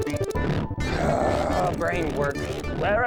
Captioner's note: groans